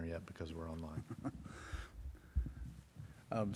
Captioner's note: laughs